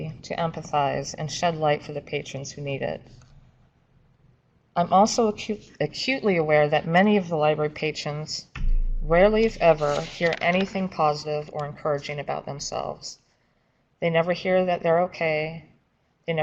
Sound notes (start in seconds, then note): 8.5 vibrating hum; 9.7 papers shuffling; 13.7 papers shuffling